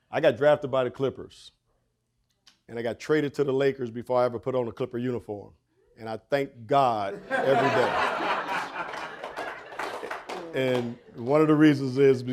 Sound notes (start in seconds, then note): 7.1 audience laughing